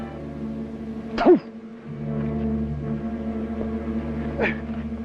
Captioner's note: Red Hawk spits